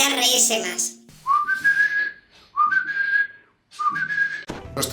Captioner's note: whistle